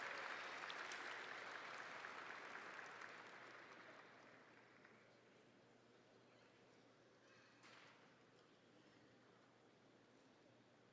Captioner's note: audience applauding